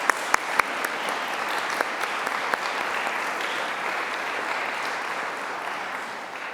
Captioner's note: applause